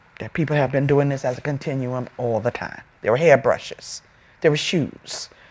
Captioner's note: none